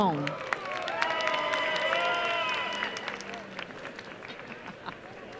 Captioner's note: applause and cheering